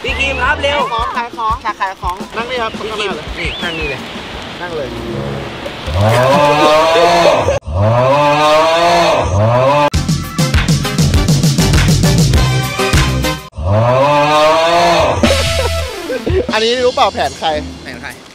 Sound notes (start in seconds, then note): 6.0 loud funny noise playing; 13.6 loud funny noise playing; 14.8 laughs